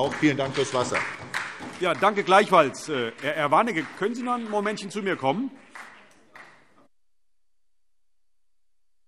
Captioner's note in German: Beifall SPD